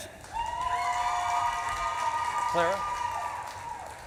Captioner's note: audience claps and cheers